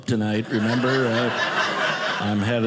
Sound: audience laughing

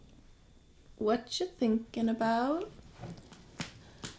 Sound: none

